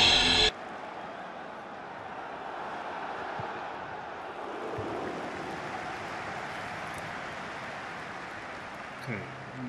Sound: football game playing

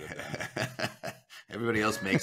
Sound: chuckling

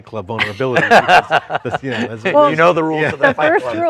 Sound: laughs

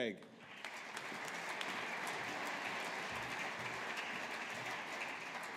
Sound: audience applauding

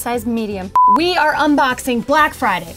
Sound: beep

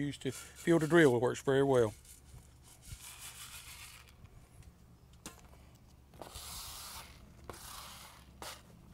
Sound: sound of surface scratching

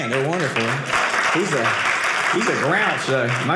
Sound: audience applauding

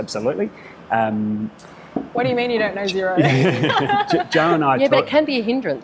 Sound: laughs

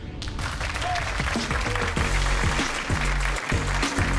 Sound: audience clapping

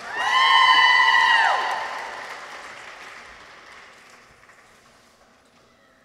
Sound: people cheer; audience applauds

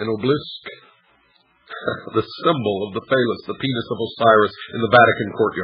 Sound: chuckles

